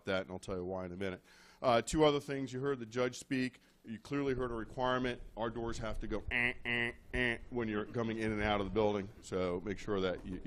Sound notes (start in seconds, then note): 6.3 imitating buzzer